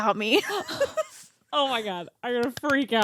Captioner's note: both laughing